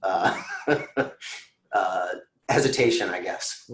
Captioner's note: giggling